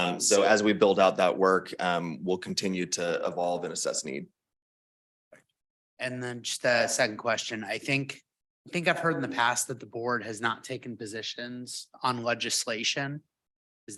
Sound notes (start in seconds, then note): none